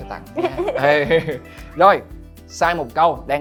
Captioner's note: laugh